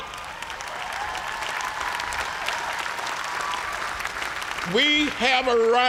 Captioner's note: cheers and applause